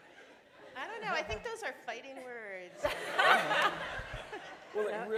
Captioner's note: laughter